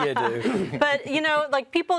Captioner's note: everybody laughing